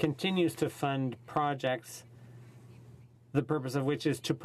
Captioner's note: speaking French